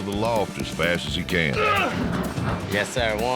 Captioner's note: grunts